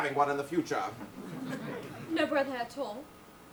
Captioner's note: audience laughs